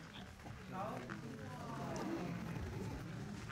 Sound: audience murmuring

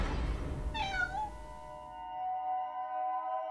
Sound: cat meow

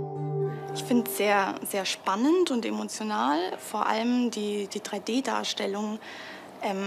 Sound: woman 2 speaks in a foreign language

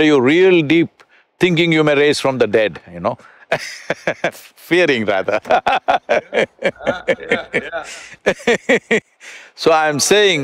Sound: both laugh

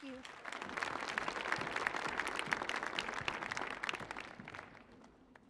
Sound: applause

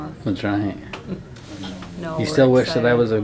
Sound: laughs

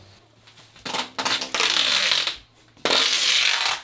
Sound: tape peeling

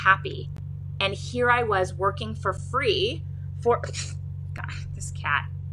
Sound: exhales sharply

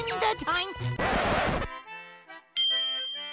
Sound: record scratch

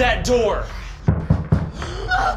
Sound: knocking

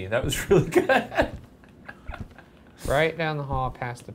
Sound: laughs

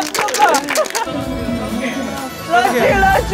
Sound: panting

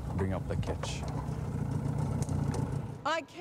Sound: engine revs

